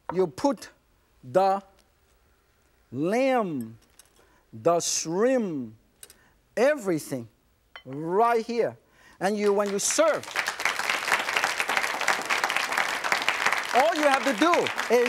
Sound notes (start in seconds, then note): 9.4 audience applauds